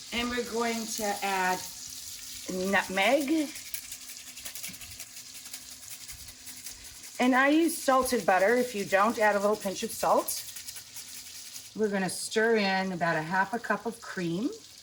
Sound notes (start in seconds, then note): 3.5 grater scrapping